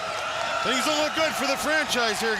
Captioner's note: crowd cheering